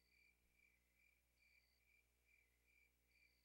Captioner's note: crickets chirping